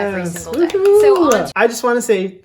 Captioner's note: cheering